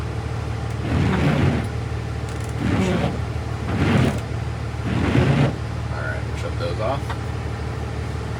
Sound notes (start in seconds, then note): 3.6 wiper swiping